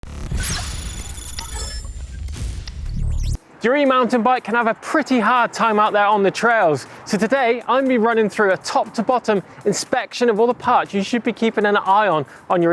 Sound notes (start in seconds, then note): 0.1 logo beeping